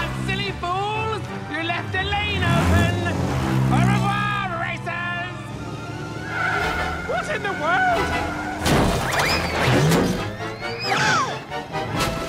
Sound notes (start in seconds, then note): 5.4 brakes screech